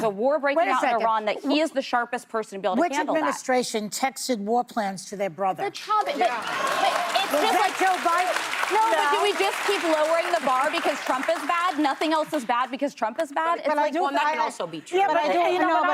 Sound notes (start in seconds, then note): 9.6 applause